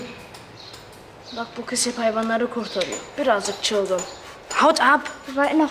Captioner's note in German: Sagt etwas auf Türkisch